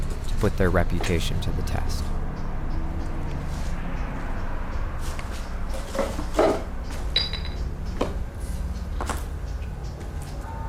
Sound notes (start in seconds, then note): 7.2 bottle clanking